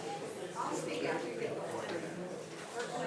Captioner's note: speaks faintly